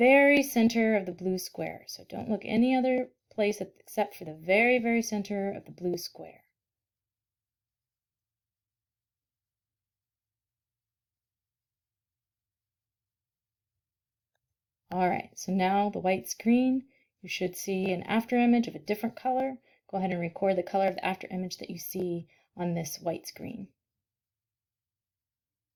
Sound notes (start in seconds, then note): 9.0 silence